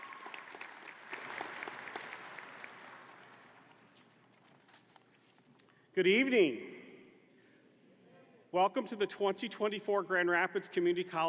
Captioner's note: applause